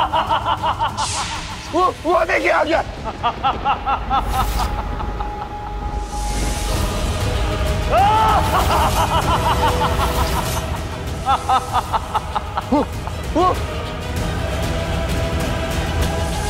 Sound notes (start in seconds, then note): 2.9 evil laughter; 13.6 intense music